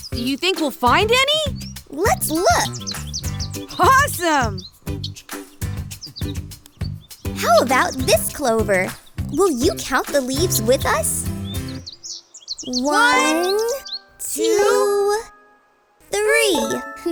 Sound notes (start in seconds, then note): none